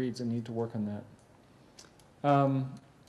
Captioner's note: pause